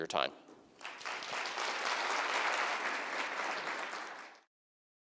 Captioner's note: applause